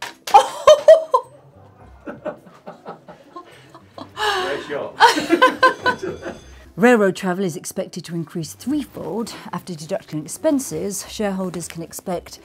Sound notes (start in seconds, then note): 0.3 laughs; 1.8 off-screen laughter; 4.9 laughter